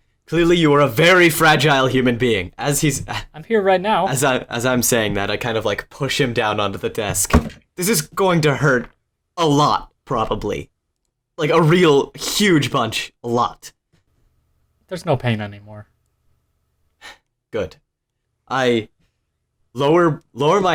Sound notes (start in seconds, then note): 7.2 thud